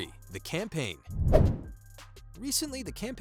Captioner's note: playful whoosh